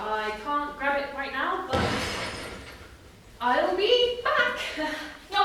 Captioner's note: another bang